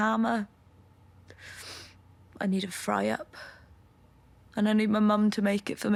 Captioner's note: she inhales